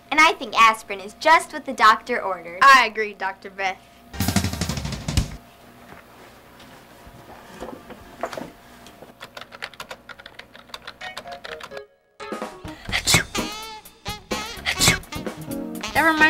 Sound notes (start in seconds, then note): 4.1 sneezes twice